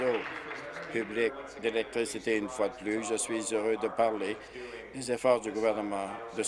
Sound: applause

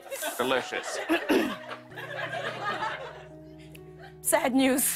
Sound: laughter; clears throat

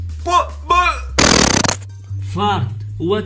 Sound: farts

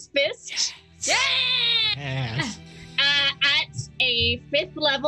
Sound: group cheers

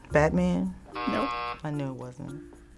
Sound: buzzer rings; bell rings

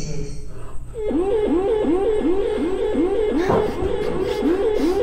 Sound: alarm blares

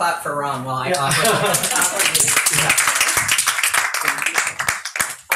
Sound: audience applauding

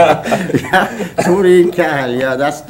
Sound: laughter

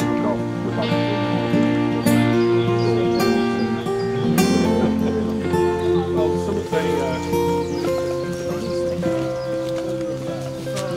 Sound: footsteps and chatting

